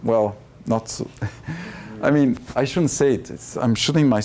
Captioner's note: chuckles